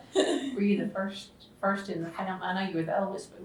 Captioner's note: laughs